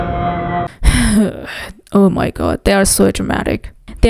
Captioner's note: sighs